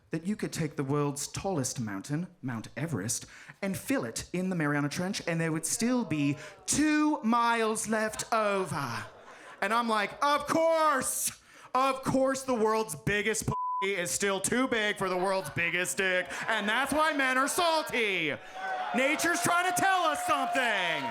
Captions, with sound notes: that you could take the world's tallest mountain, Mount Everest, and fill it in the Mariana Trench and there would still be two miles left over." And I'm like, "Of course. Of course the world's biggest (beep) is still too big for the world's biggest dick, and that's why men are salty! Nature's trying to tell us something."